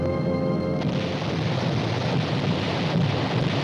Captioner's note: cannon fire